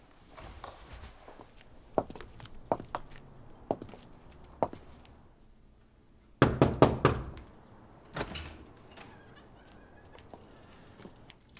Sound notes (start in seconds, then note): 2.2 footsteps approaching; 6.4 knocking; 6.4 door sqeaking open